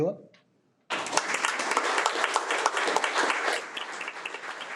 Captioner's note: audience applauding